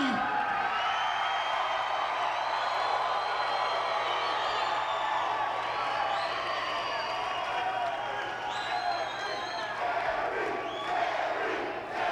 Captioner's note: applause